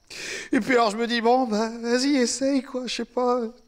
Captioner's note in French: Sanglots